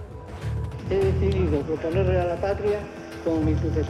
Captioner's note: speaking Spanish